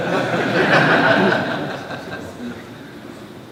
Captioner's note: laughter